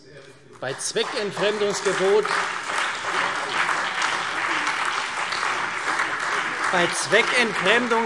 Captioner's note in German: Beifall CDU, BÜNDNIS 90/DIE GRÜNEN, SPD, DIE LINKE und Freie Demokraten